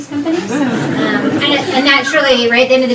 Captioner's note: audience laughs